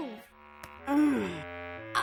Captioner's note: grunts